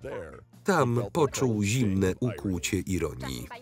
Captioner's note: voiceover